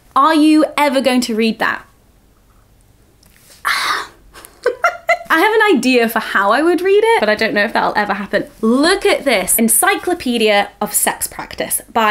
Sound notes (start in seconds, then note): 3.6 loud exhaling; 4.3 laughing